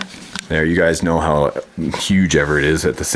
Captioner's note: voiceover